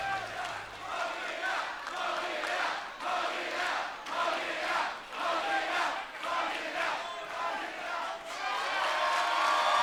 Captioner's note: fans chanting